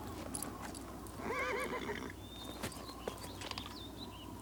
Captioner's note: horse neighs